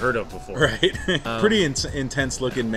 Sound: laughing

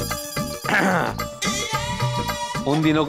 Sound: clears throat

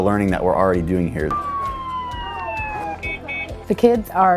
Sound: siren and beeping

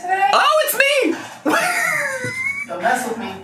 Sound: laughs

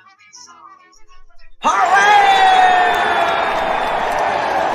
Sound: all cheering

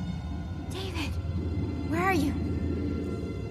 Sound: whispering

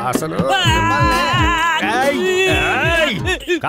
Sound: screaming in pain

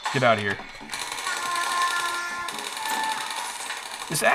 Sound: turret firing

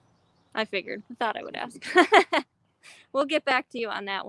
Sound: laughs

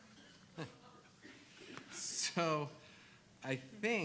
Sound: laughs

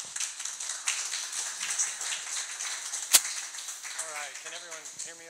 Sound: audience clapping

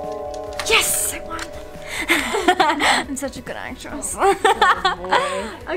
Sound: laughs

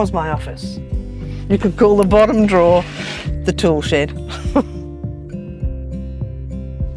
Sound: chuckles

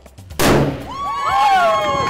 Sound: cannon booms

